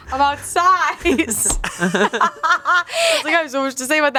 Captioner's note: laughs; everyone laughs